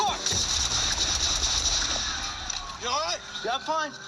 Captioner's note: rapid gunshots